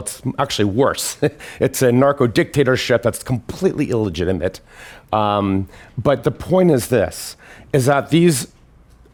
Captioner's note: laughs